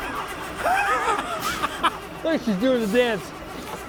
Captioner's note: laughs